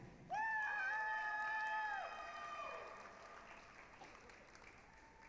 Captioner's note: applause, cheering